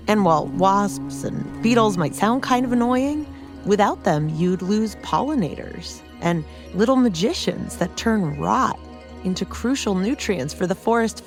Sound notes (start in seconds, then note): 3.7 A fly buzzes